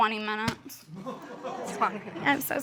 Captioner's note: audience laughing